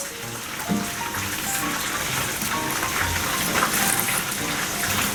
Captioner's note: you already hear the sound of frying